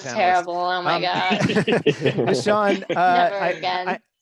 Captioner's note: all chuckle